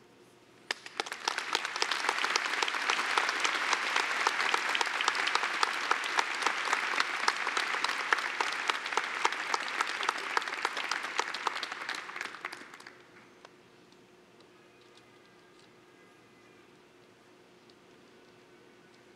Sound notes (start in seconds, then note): 0.6 applause